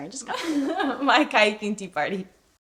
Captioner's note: laughing